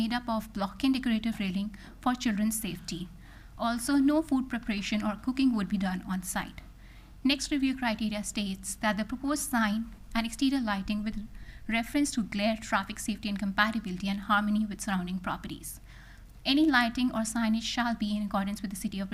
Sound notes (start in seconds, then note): none